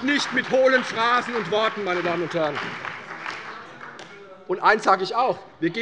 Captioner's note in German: Beifall bei der CDU und dem BÜNDNIS 90/DIE GRÜNEN